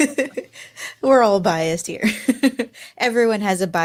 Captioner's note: laughing; laughs